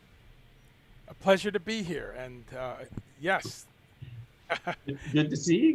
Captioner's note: laughs